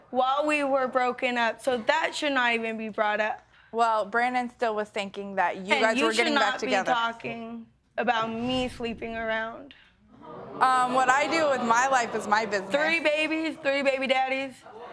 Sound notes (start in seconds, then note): 8.0 audience gasp